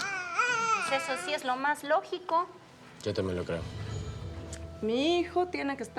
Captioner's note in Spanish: Balbuceos del niño